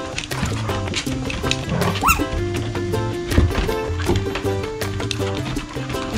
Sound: growling

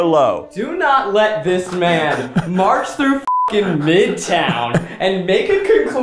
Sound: beep

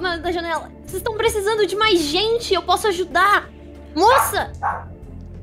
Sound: dog barking in the background

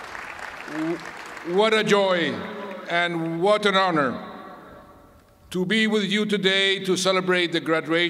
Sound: cheers and applause

